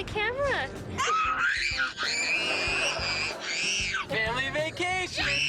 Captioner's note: screaming; audience laughing